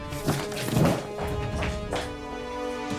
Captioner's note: Footsteps